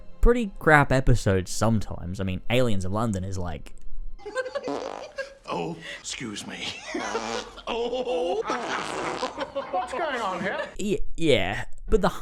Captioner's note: farting and laughing